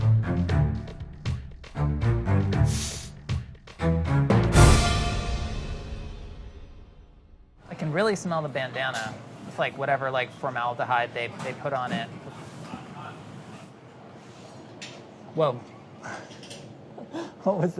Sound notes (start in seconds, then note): 2.6 sniffing; 16.4 laughs